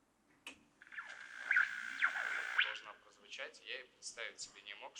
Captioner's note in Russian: шум радио